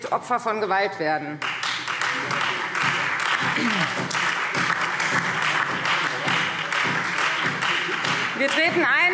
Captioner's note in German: Beifall Freie Demokraten, SPD und DIE LINKE